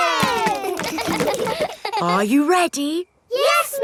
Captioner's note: kids laughing; chuckles